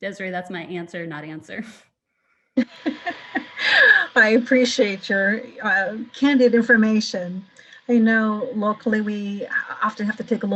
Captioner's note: laughter